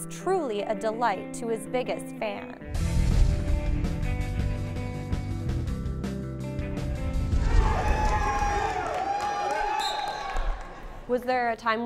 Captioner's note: cheering